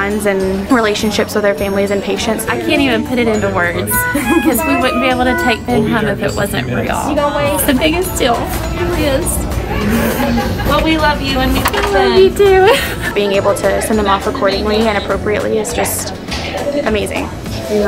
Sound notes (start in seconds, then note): 3.1 laughing; 9.7 sniffling